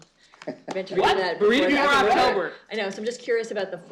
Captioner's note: laughter